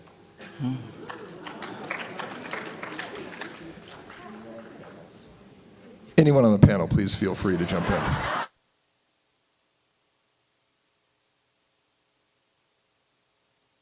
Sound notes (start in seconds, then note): 0.9 applause; 7.4 laughter